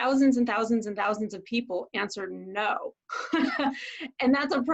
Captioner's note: laughs